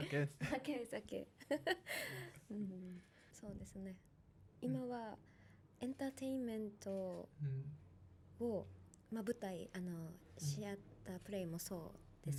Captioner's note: laughs